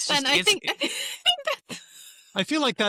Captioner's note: laughs